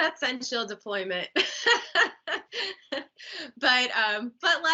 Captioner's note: laughing